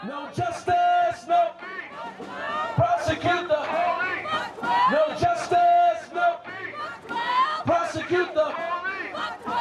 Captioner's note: crowd chanting